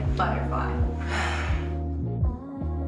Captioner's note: sighs